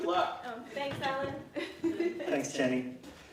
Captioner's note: laughs